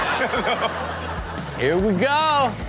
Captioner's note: audience laughing